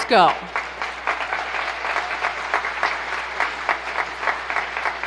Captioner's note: applause